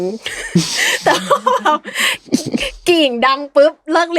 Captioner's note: laughs